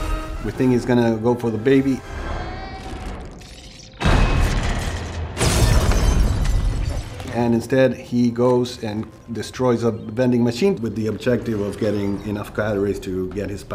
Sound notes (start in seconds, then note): 2.1 baby wailing